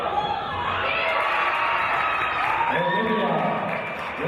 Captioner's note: cheering and applause